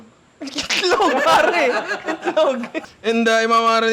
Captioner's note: laughter